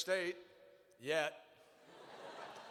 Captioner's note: laughter